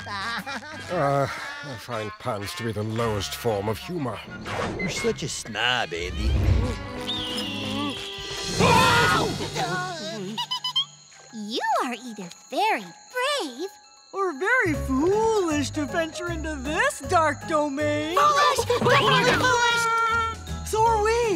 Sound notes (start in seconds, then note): 0.3 sighing; 8.2 screaming; 9.4 laughing